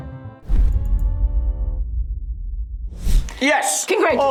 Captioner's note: logo thuds